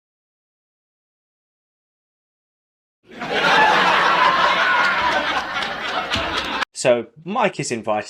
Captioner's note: laughter